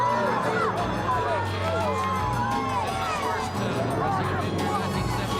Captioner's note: crowd cheering